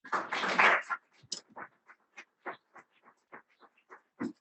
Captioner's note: audience applauding